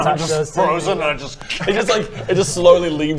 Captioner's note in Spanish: crk-cr-crk